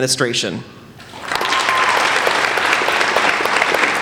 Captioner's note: applauding